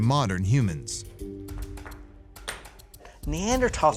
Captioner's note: rocks banging